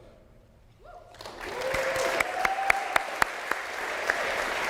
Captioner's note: applause